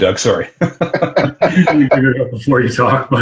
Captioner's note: laughter